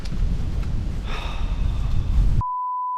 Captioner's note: sigh